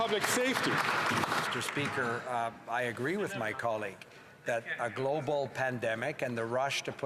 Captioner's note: some Applause